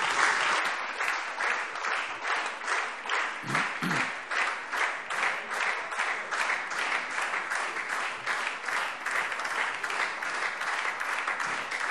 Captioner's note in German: Anhaltender Beifall SPD - Beifall Freie Demokraten